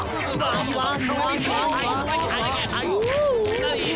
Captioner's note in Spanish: Sonido de pelea